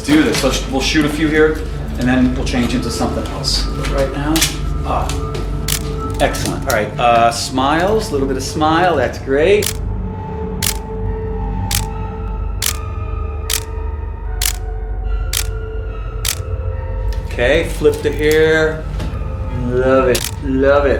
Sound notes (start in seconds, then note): 10.1 camera clicking; 10.1 eerie music